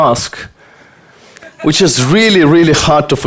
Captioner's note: audience laughter